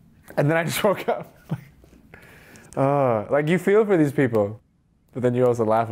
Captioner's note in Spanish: Risas